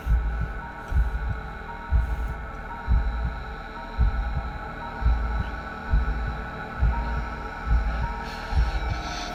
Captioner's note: heartbeats getting louder